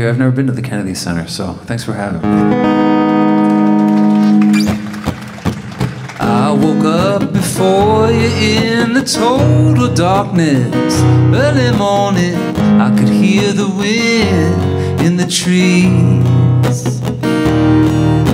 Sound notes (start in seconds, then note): 3.0 audience applauding